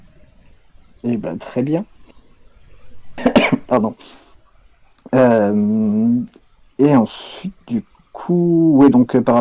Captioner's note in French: tousse